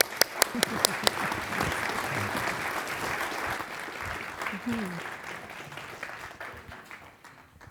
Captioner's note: applause